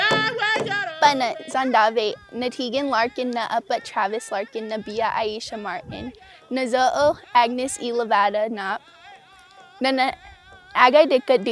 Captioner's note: drumming; speaking in native lanugage